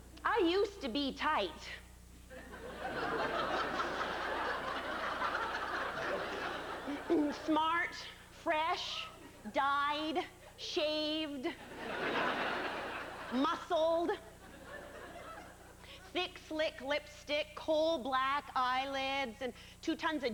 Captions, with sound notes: I USED TO BE TIGHT... [laughter] [ahem] SMART, FRESH, DYED, SHAVED... MUSCLED, THICK, SLICK LIPSTICK, COAL BLACK EYELIDS,